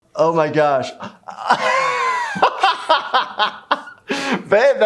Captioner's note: jovial Laughter